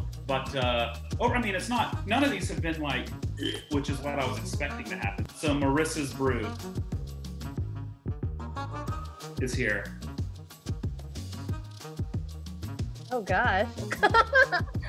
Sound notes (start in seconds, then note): 3.4 gags